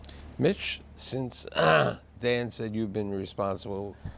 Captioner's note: clears throat